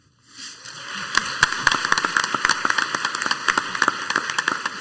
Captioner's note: crowd applauds